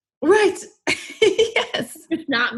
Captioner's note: laughs